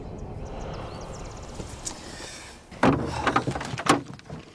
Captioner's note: Quiet Growl